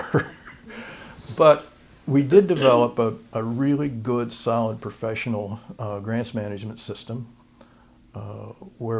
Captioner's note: laughter